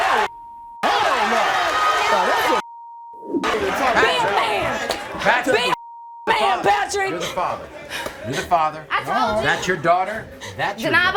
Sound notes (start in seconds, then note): 5.7 beep